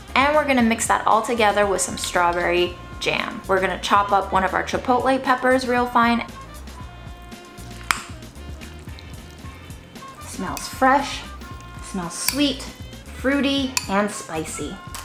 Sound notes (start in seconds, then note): 6.2 food mix squishing; 6.3 upbeat instrumental music; 7.2 spoon clicking; 7.8 food mix squishing